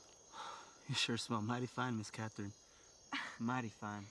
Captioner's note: exhales; Cathryn chuckles